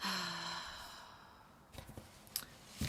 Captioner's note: exasperated sigh